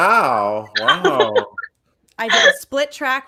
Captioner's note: laughs